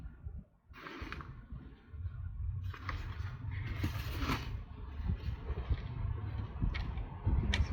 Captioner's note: howling wind